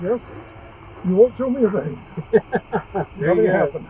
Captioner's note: laughs